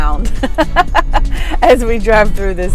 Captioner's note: chuckles